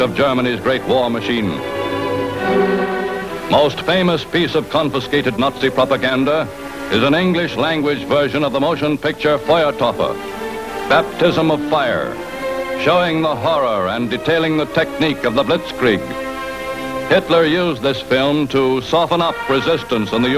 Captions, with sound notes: of Germany's great war machine. Most famous piece of confiscated Nazi propaganda is an English-language version of the motion picture, (speaking in foreign language) "Baptism of Fire," showing the horror and detailing the technique of the Blitzkrieg. Hitler used this film to soften up resistance